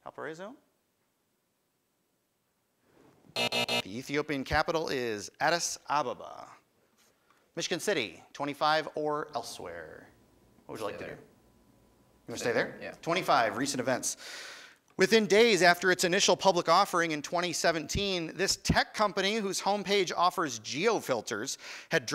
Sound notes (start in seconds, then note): 3.3 time buzzer